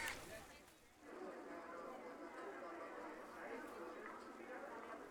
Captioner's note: indistinct chatter